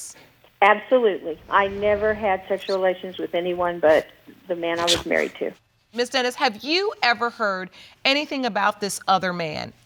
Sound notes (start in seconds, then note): 4.7 scoffs